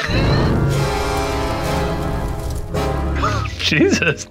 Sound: laughs

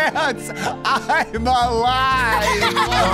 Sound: laughing; laughter

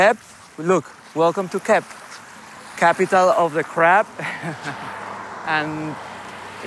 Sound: chuckles

